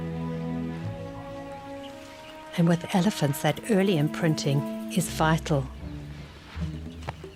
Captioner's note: animals calling